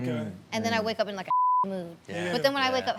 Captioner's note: beep